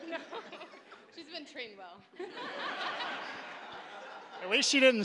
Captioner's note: audience laughing